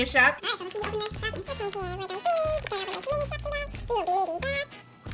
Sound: sped-up, high-pitched voices

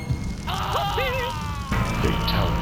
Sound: screaming

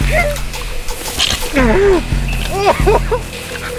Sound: simon groans

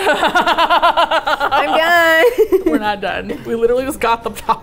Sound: laughs

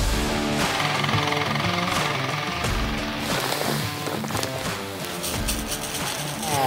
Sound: intense music; vehicle revs

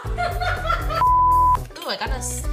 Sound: beep

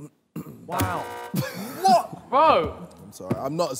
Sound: buzzer beeps

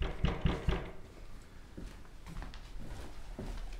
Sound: knocking

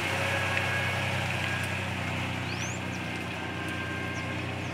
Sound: engine rumbling

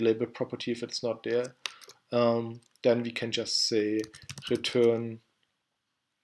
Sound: typing

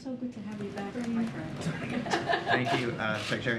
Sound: laughs

